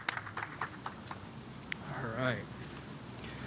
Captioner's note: cheers and applause